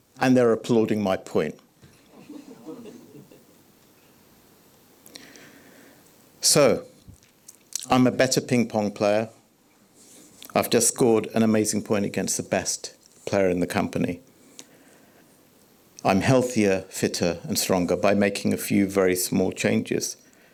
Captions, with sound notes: and they're applauding my point. [audience chuckling] So, I'm a better ping pong player. I've just scored an amazing point against the best player in the company. I'm healthier, fitter and stronger by making a few very small changes.